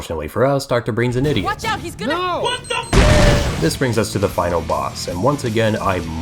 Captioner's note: booom